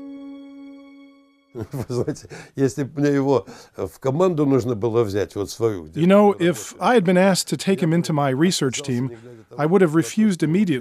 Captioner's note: laughs